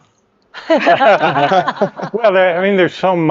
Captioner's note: speakers laughing